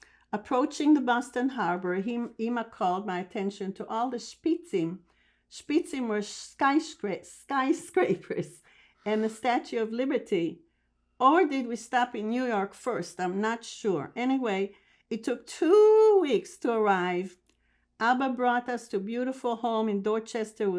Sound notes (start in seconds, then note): 4.7 hebrew